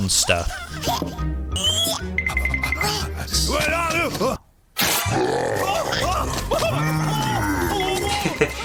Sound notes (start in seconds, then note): 5.1 monster roars